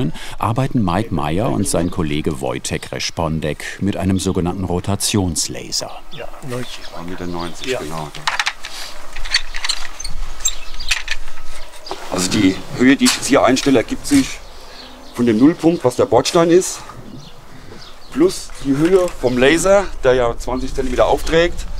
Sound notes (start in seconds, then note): 8.4 soft squeaking